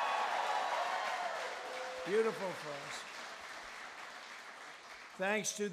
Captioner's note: applause